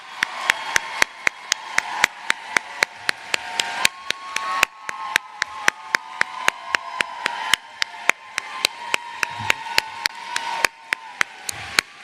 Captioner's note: applause